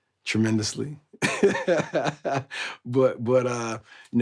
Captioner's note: laughing